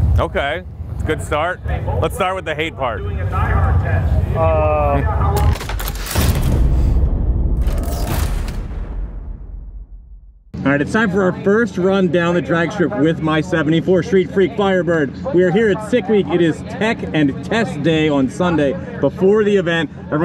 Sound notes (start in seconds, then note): 5.4 metal rattling